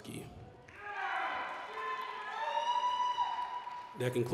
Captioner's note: applause, cheering